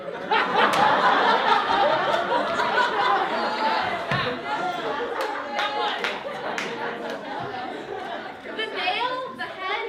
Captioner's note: laughter